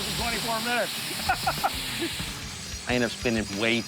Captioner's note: laughs